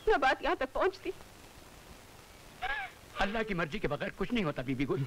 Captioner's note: Crying